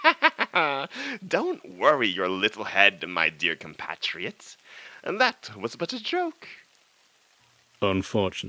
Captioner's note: cackle